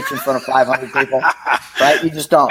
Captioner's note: laughing